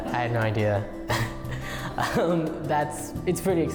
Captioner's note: laughing